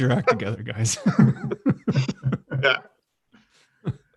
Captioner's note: laughing